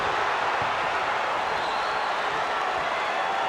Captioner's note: crowd cheers